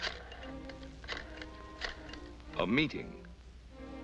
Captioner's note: phone clicking